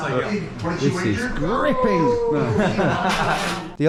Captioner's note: laughter